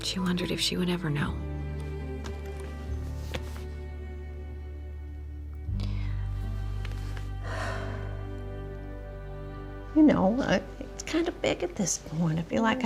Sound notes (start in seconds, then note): 3.2 laptop closes; 7.4 sighs